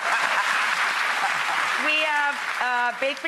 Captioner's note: laughs; audience claps